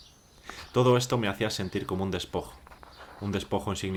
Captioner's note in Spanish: Voz en off